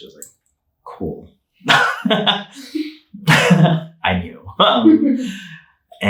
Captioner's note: laughing